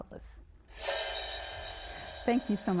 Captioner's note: graphic whooshing